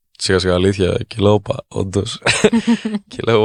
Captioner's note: chuckles